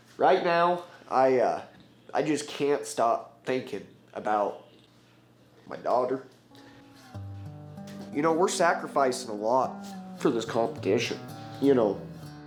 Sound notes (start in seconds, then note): none